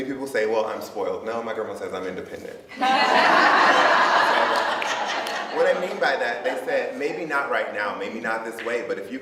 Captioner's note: audience laughs